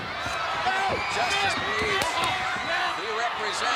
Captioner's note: footsteps plodding; hands clapping